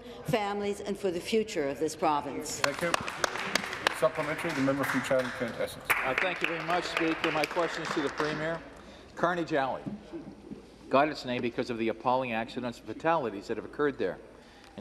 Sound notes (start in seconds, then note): 5.2 applause